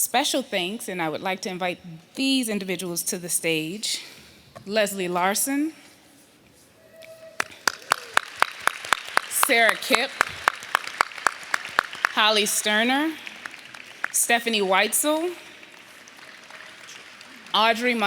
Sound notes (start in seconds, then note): 14.1 applause